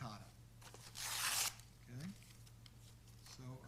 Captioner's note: tearing paper